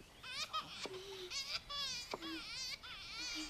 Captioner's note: moaning Softly